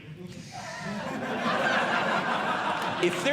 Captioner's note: audience Laughing